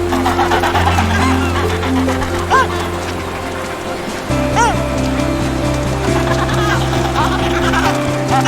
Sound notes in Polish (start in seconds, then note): 0.1 terkotanie pingwinów; 2.4 wycie foki; 6.0 terkotanie pingwinów